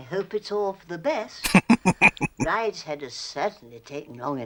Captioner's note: laughing